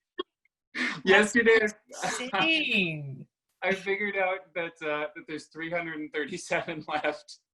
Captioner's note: laughter